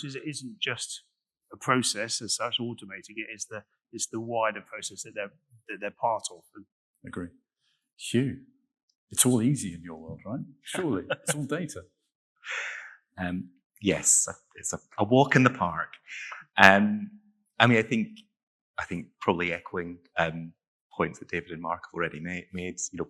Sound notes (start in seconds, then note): 10.7 laughing